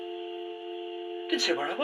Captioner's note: phone cuts out